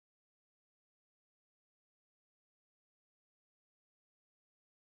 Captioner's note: none